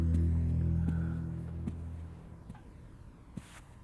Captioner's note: exhaling; footsteps